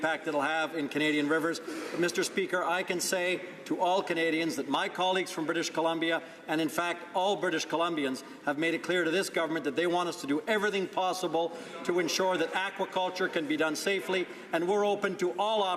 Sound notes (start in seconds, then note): none